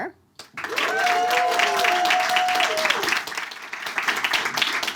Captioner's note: audience claps